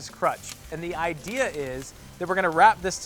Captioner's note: sizzling